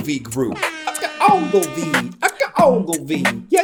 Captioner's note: air horns blare